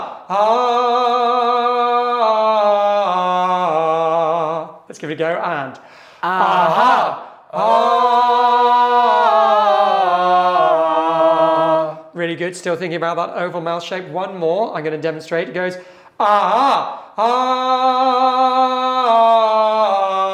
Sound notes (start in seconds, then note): 0.0 vocalizing; 6.2 all vocalizing; 16.1 vocalizing